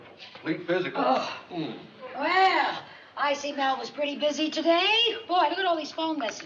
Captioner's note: groans